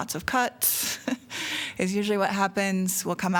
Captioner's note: laughter